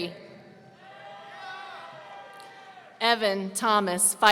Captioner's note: audience cheering